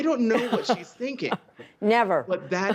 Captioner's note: laughter